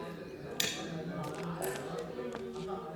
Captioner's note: indistinct chatter